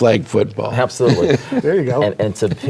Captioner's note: laughs